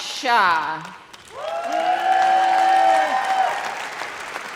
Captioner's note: audience cheers